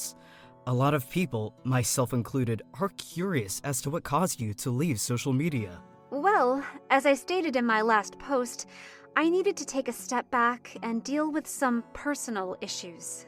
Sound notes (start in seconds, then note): none